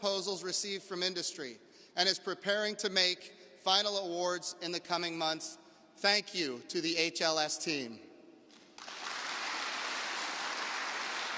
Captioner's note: applause